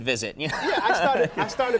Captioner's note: laughing